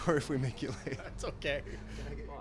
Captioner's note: laughter